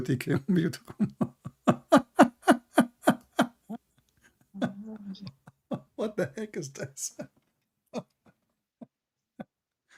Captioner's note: Ketawa